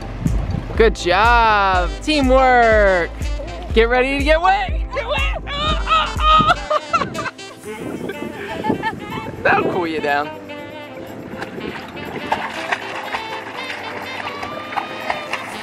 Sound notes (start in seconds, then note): 5.7 laughter; 10.7 water splashing